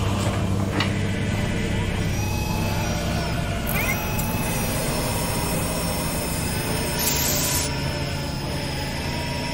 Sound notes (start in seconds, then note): 3.7 suction sounds grabbing covers